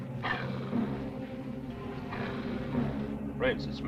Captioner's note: dog growling